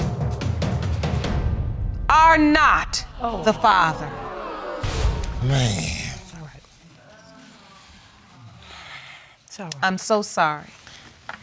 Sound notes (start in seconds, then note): 3.1 audience exclaim in disappointment; 7.5 sighs